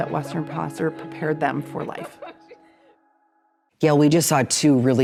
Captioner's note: laughing